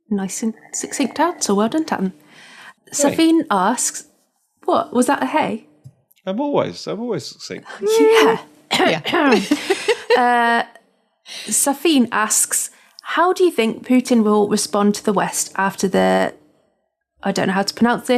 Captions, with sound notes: - Nice and succinct answer Well done Tatton Safeen asks - what, was that a ‘hey’? - I’m always succinct - Yeah [coughs sarcastically] Safeen asks, ‘How do you think Putin will respond to the West after the - I don't know how